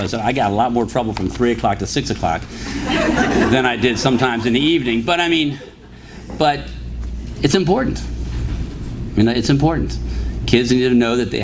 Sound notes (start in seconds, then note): 2.7 laughter